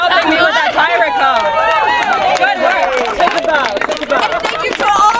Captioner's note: audience cheering